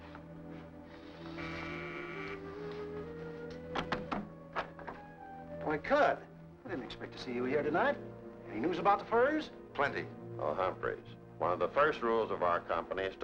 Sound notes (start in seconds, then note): 1.3 doorbell buzzes